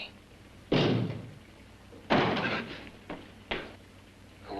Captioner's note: loud banging sounds